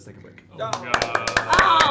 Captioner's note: applause